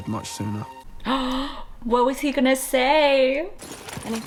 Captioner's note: gasps